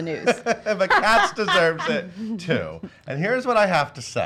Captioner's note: laughs